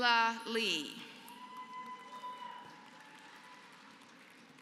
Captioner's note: applause